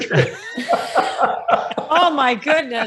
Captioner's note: presenters laughing